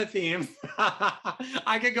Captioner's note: laughs